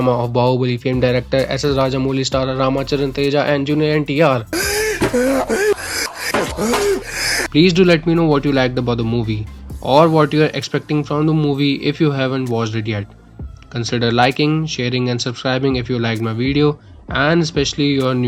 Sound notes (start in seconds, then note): 4.5 catching my breath after narration